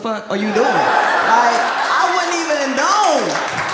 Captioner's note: audience laughs